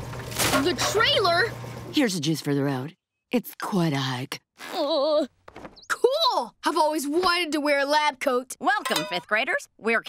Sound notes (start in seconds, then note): 4.2 whimpering